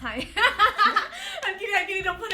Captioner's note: laughs